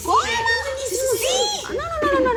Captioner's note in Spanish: Hablan al unísono